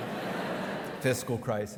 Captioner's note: audience laughing